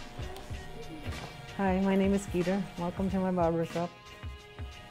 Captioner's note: electric razor buzzes